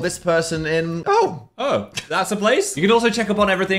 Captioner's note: laughs